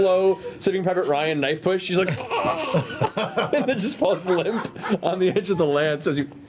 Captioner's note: gurgling noise